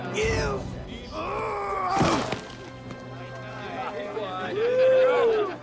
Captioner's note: Knox and Dalton grunting; soldiers jibing